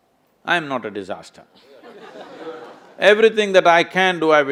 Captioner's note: laughter